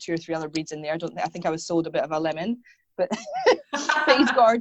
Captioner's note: laughs